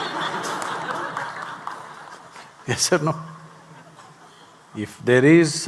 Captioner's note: laughter/Applause; laughs